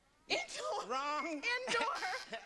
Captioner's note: buzzer